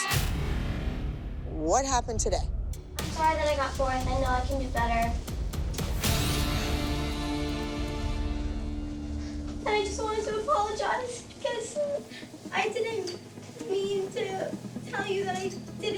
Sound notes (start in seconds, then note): 5.6 sighs; 8.4 crying